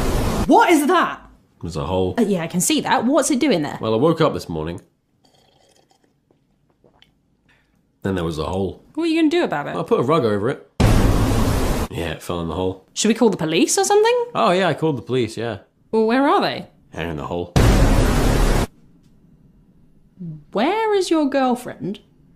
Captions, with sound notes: WHAT. IS. THAT? its a hole well yeah i can see that, what's it doing there? well I woke up this morning *SLUUUUUUURP* then there was a hole. what you gonna do about it? Well i put a rug over it. Yeah it fell in the hole should we call the police or something? oh yeah I called the police yeah well where are they? they're in the hole where is your girlfriend?